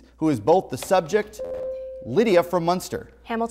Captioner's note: buzzer